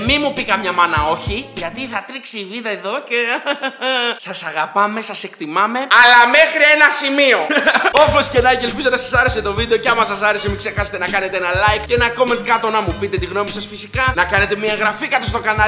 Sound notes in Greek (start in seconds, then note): 7.4 γέλιο